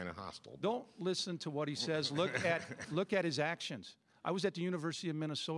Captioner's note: AF laughs